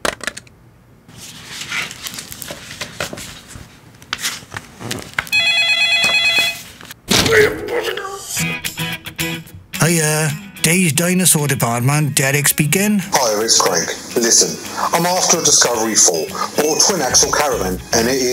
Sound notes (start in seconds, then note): 0.1 keyboard clicking; 1.1 shuffling papers; 5.3 phone ringing; 7.1 bangs head... angry grumbling; 8.7 upbeat music